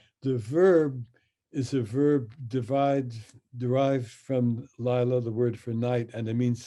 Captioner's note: speaks in Hebrew